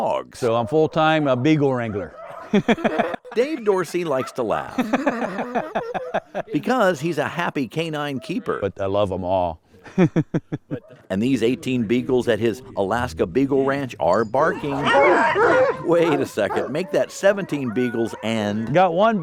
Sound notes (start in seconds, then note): 2.1 laughing; 4.6 laughing; 14.3 dogs barking